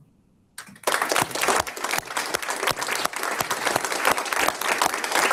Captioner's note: audience applauds